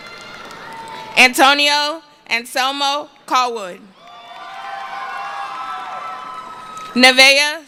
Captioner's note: cheering